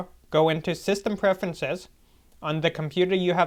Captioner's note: none